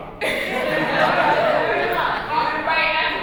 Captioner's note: chuckles